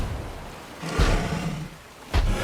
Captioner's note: growls